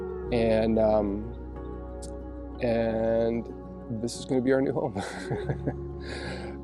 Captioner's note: laughs